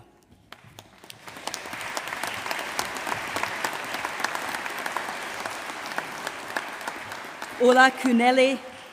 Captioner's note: applause